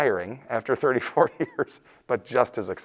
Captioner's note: laughing